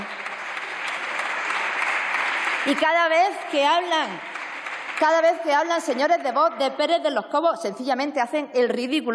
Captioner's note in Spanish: Aplausos